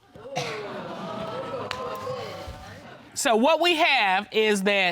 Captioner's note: audience exclaims